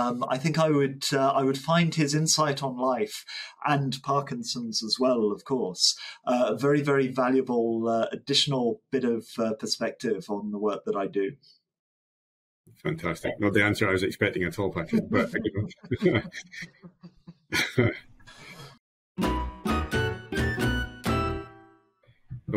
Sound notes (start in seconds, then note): 14.8 both laugh; 19.2 upbeat transition music